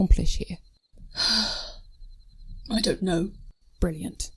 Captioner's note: sighs